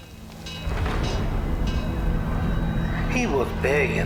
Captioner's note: siren bell ringing